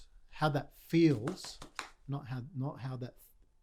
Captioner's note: slapping